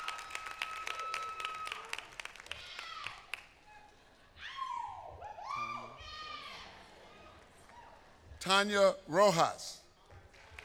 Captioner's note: applause